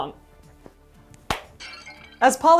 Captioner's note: crash